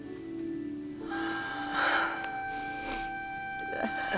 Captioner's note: breathes raggedly